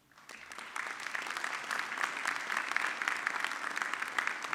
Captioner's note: audience clapping